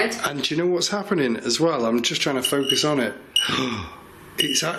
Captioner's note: gasps